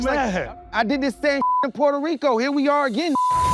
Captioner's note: beep